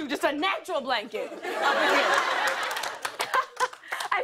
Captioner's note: laughter and applause